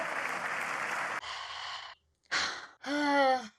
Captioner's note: sighs